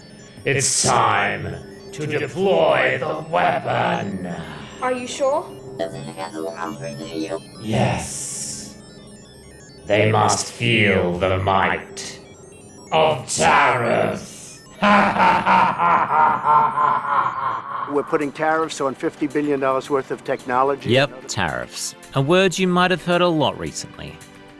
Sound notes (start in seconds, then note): 6.4 chatters; 14.7 cackles evilly